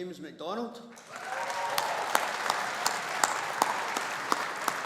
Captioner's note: audience applauding